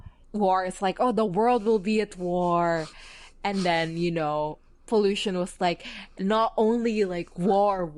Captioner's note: laughs